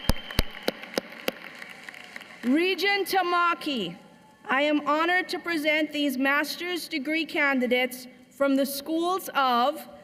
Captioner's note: cheers and applause